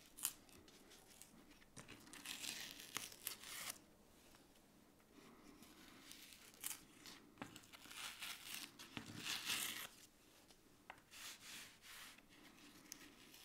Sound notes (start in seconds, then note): 1.7 paper layer crunching; 7.5 paper layer crunching